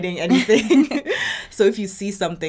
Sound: both laughing

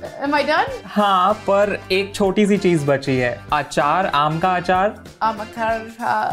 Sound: speaking in Hindi

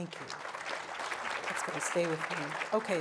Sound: audience applauding

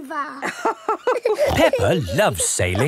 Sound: both laughing

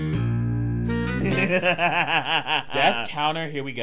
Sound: laughing

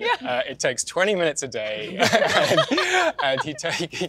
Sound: laughs

